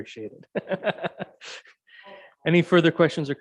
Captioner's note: laughs